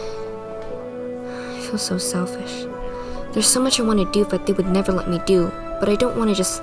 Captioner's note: sigh